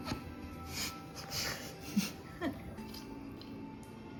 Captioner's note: laughs